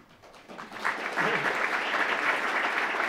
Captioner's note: applause